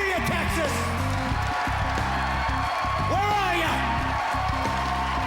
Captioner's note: cheering and clapping; cheering continues